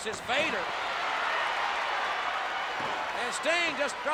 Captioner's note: audience cheers